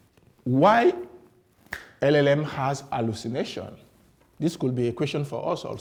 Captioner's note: claps